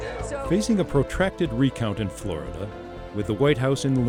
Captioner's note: voiceover